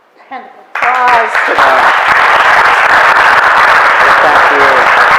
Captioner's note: audience applauds